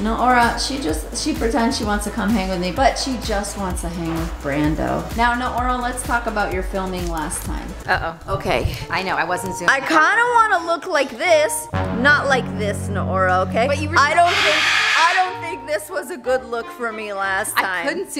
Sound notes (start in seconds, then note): 14.1 bird screams